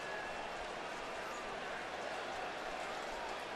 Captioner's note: pa announcement